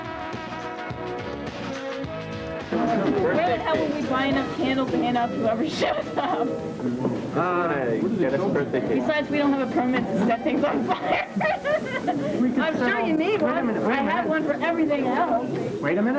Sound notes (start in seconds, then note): 13.4 laughter